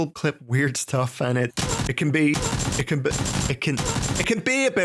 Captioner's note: gun snaps